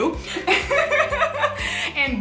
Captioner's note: laughs